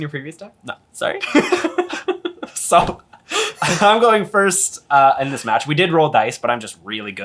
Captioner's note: laughs